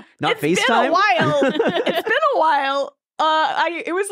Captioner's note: laughing